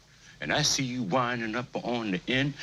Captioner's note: none